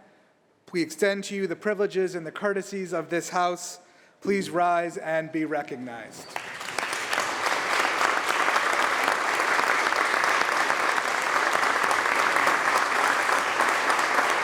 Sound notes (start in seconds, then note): 3.7 applause